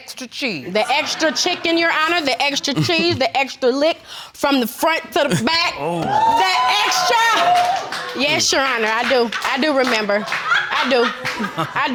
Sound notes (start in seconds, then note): 5.7 audience exclaiming